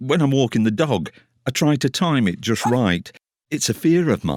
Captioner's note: dog barks